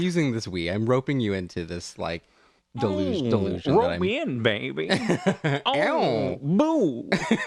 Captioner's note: laugh